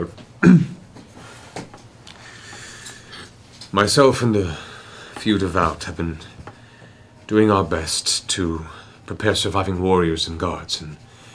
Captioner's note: ahem